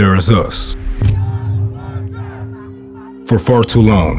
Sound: protesters chanting

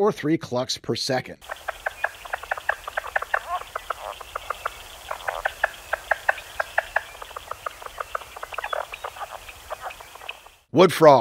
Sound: plains leopard frog call

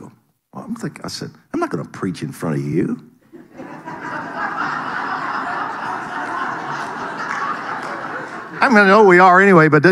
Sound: audience laughing

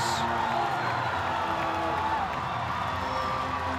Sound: crowd/music

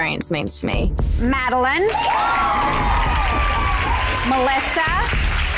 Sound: clapping and cheering

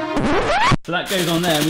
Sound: record scratching

